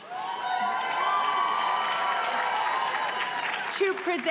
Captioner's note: audience cheering and applauding